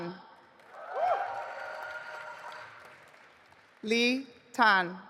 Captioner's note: audience applauding